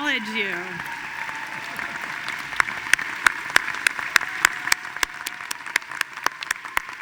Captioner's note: audience cheering and applauding